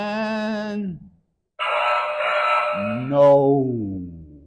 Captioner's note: error sound effect